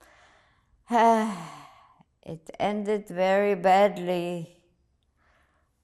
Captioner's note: sighing